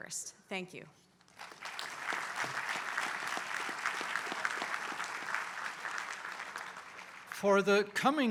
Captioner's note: applause